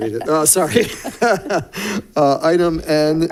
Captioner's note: laughs